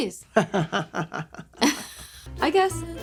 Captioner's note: laughs